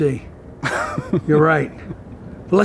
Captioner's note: laughing